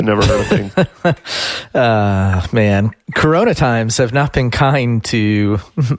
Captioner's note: laughs